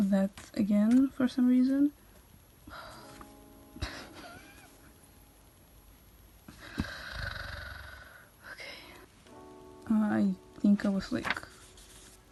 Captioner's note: sigh and hopeless giggle